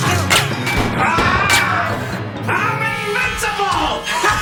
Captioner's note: laughs maniacally; gunshots